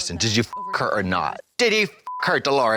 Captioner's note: beep